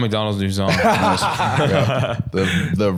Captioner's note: all laughing